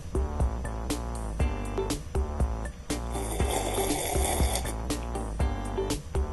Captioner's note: sipping tea noise